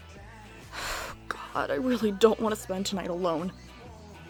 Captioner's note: sighs